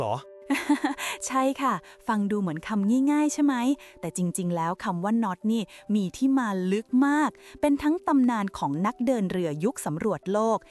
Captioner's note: laughter